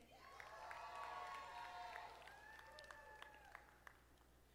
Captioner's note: audience applauding